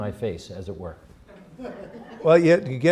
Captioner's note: laughter